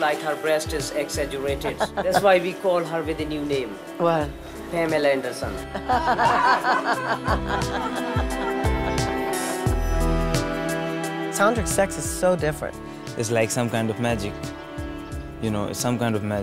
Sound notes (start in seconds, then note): 7.3 laughter